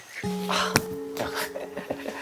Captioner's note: gasps